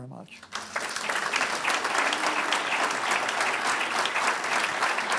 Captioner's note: audience applauds